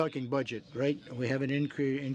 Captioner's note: speaking French